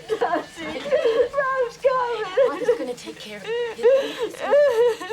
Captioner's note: sobbing